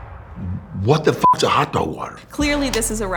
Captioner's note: beep